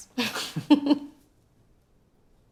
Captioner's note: laughs